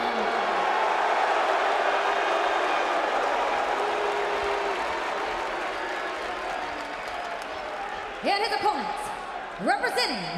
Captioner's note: crowd cheering